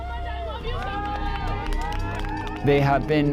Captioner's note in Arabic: هتاف المتظاهرين